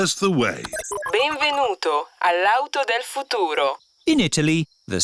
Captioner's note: chuckles; beeps; speaks italian